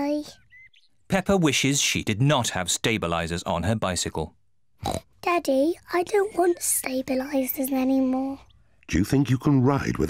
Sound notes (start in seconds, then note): 4.8 snorts